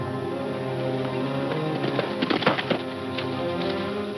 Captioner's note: hooves clunking